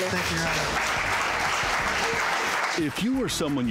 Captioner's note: applause